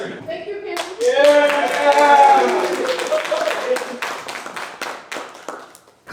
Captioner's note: applause